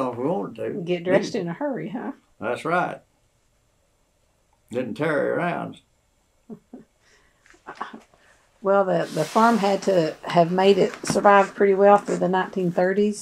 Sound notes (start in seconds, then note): 6.5 laughs